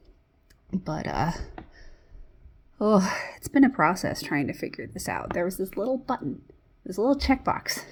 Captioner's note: sighs